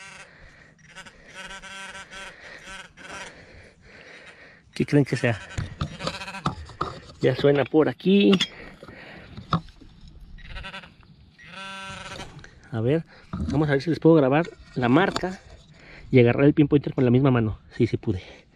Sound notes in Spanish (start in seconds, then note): 0.2 sonido y vibraciones del Pin Pointer; 7.1 sonido del pin pointer; 10.2 sonido y vibración del pin pointer